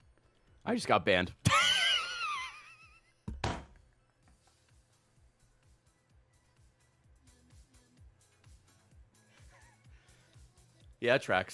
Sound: laughs

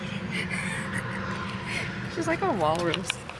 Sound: lauging

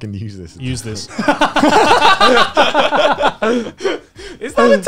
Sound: laughter

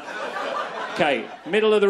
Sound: crowd laughs

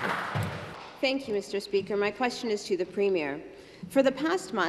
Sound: some Applause

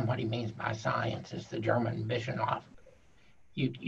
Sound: speaking foreign language

